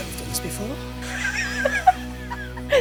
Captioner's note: laughing